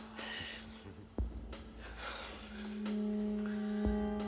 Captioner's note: Rene chuckles